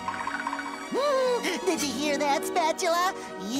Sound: giggling

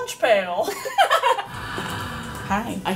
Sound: laughing

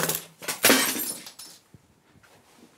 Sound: smashing glass

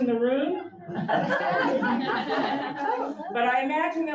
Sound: audience laughs

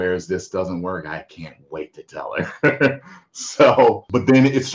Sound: chuckles

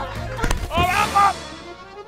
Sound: screams

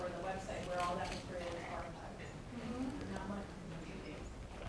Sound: speaking faintly

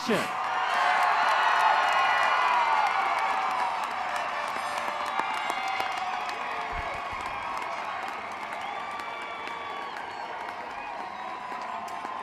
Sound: applause

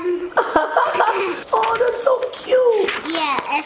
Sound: laughs

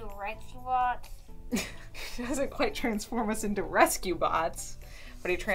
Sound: laughing

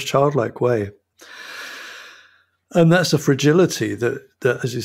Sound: inhales deeply

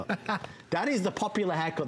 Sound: laughter

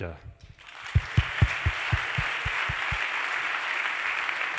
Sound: applause

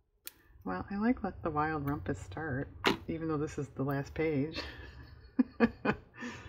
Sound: laughs

